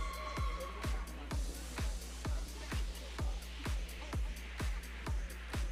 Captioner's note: audience cheering